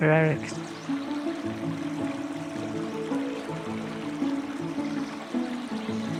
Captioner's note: gentle river water flowing